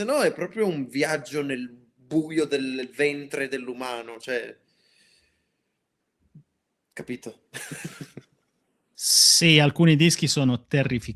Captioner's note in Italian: risate